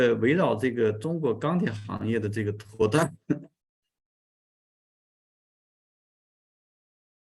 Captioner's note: continues to speak in Chinese